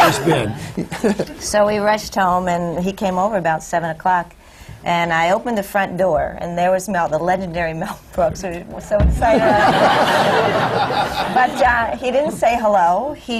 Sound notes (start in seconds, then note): 0.0 laughs; 9.2 laughter; 9.3 laughs